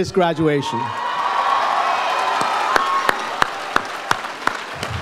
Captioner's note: audience applauds